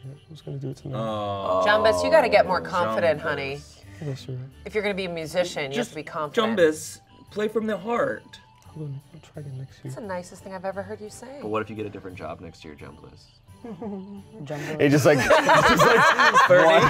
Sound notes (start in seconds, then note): 13.4 whimpers; 15.2 everyone laughs